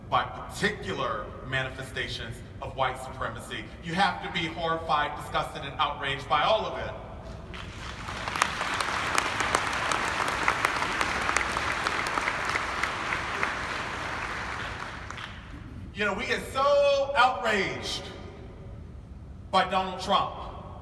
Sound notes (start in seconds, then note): 7.5 audience applauding